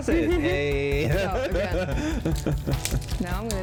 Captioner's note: laughs